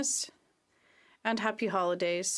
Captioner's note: speaking French